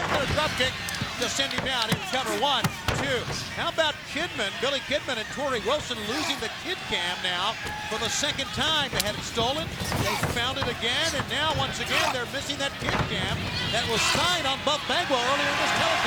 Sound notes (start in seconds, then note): 2.8 hand thudding